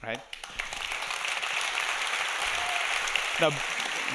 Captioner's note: audience applauding